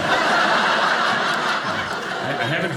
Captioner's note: audience laughing